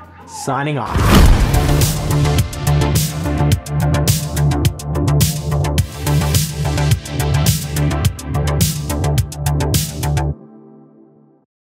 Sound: lightning crack, then Music

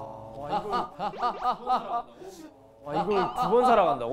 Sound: true laugh

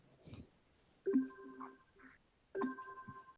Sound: beep

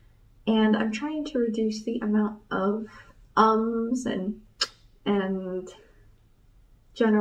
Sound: sucks teeth

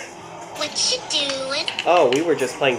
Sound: imitating Alyson Stoner

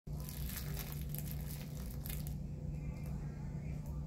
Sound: sounds of crinkly cactus carnage

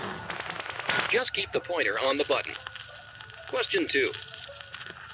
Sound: radio

